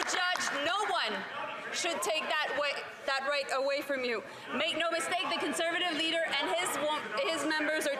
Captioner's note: some Applause